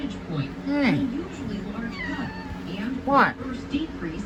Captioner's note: meows